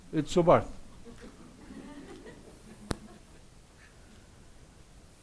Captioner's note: audience laughs